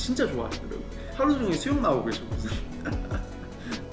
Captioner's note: laughing